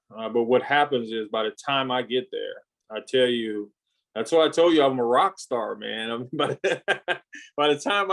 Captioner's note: laughs